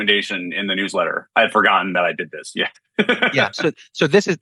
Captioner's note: laughs